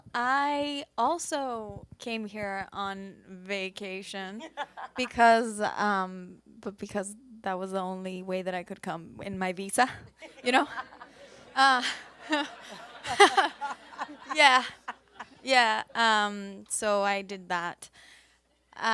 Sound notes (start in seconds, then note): 4.4 laughs; 10.2 laughs; 11.7 panelists laugh; 12.9 audience laughs